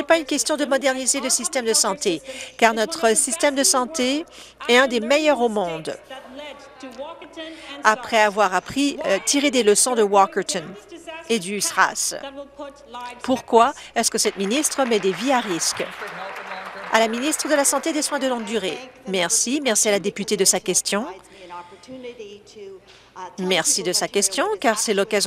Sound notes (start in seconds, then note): 17.3 applause